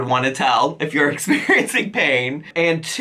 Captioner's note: chuckles